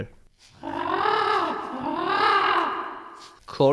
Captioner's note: bird squawk